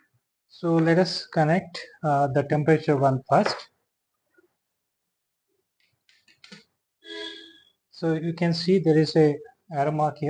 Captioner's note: instrument beeps